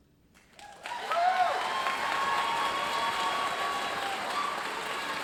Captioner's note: audience applauding